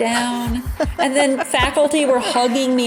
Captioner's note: laughing